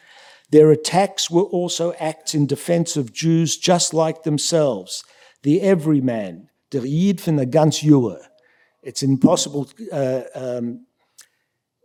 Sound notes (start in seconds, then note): 7.2 yiddish